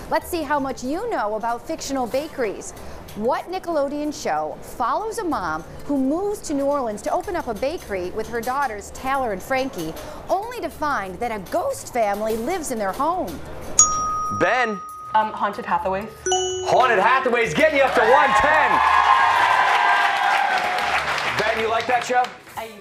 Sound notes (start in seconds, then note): 17.6 cheers and applause